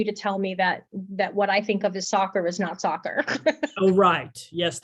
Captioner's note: giggles